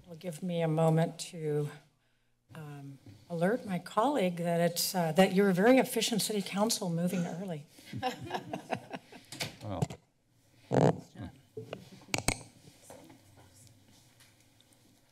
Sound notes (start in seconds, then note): 9.6 laughs